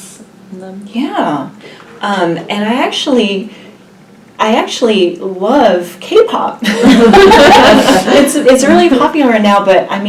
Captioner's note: all laugh